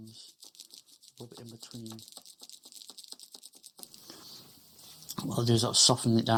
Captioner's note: rope scraping